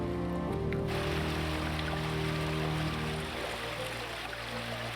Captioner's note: water splashing